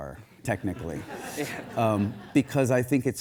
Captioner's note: audience laughs